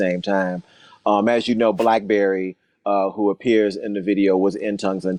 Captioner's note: whooshing sound